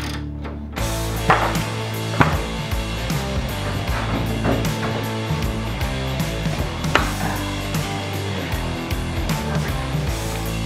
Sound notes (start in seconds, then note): 0.8 clunking wood; 5.0 fast-paced rock music